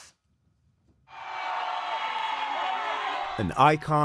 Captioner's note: cheering